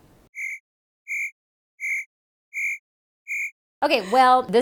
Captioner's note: crickets chirping